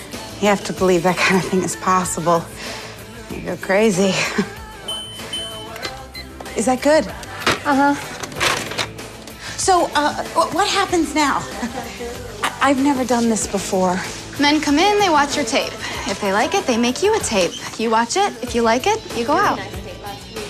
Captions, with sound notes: You have to believe that kind of thing is possible or you'll go crazy. [camera beeps] - Is that good? - Uh-huh. So, uh, w-what happens now? I-I've never done this before. Men come in, they watch your tape. If they like it, they make you a tape. You watch it, if you like it, you go out.